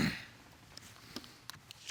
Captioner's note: clears throat